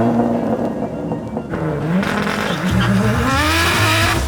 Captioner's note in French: moteur tournant